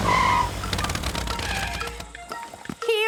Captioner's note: tires screeching